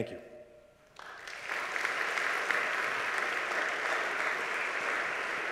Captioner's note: audience applauds